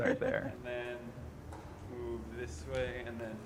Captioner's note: chuckling